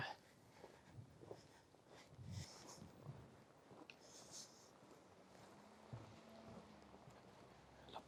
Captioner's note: footsteps in the snow